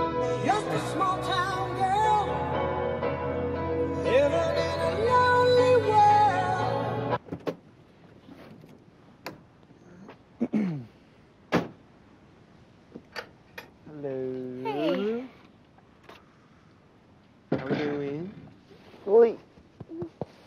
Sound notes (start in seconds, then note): 11.5 car door shuts